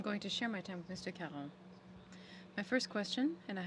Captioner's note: speaking French